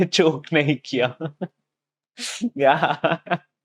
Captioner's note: laughing